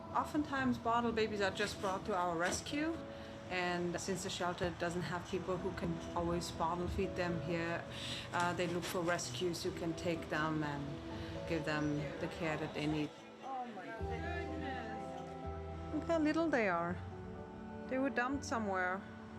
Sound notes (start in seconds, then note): 12.0 overlapping chattering